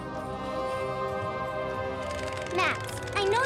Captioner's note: grand music; Max whimpering